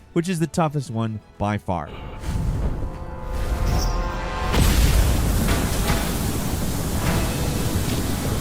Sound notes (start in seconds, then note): 3.4 tense music; 4.4 fire roaring